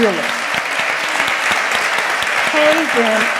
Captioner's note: applause